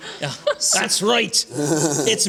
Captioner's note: laughter